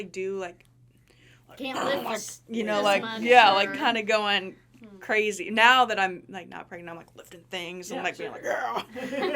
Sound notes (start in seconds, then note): 1.7 grunting